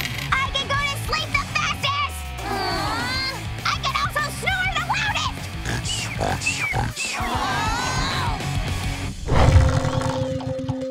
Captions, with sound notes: I can go to sleep the fastest! [collective sigh] I can also snore the loudest! [snoring] [collective sigh]